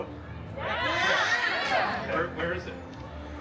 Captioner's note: guests expressing a collective “Yes!”